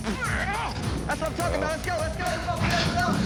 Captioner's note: grunting